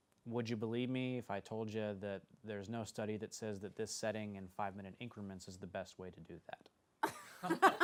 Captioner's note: laughter